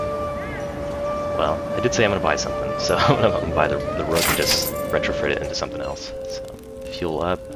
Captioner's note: laughs